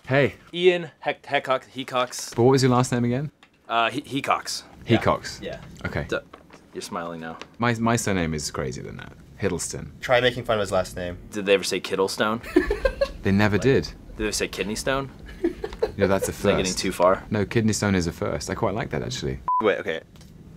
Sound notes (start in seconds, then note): 12.4 laugh; 19.5 beeping Sound